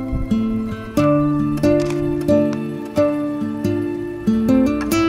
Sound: serene guitar music; camera shutter clicking

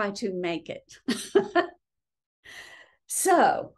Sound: laughing

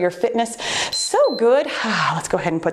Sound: timer beeps

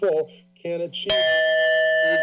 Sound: bell dings

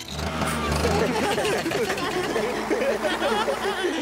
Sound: all Laughing

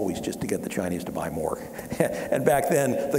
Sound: laughing

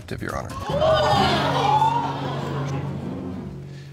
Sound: audience gasps

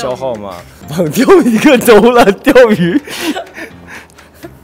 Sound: hahahahahaha

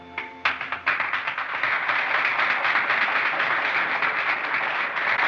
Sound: applause

